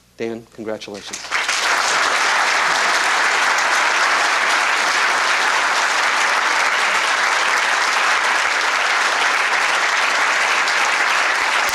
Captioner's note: applause